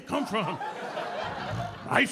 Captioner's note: audience laughing